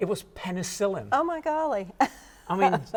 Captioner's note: chuckles